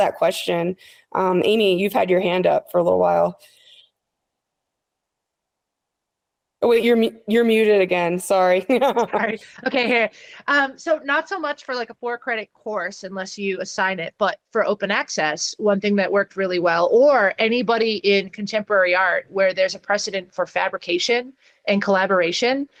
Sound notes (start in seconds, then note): 8.7 laughs